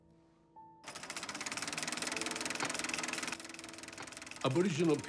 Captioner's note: projector whirs and clicks